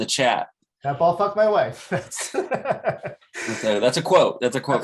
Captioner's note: laughs